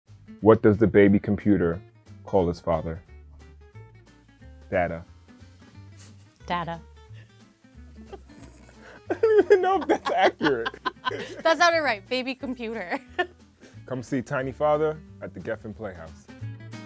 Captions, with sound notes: What does the baby computer call his father? “Data.” Data. (giggles) I don’t even know if that’s accurate! (laughs) That sounded right. “Baby computer!” (laughs) Come see “tiny father” at the Geffen Playhouse.